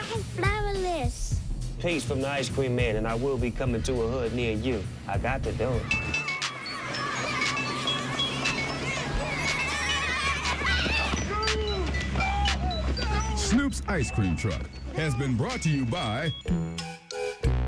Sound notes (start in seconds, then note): 6.6 kids yelling; 11.8 men yelling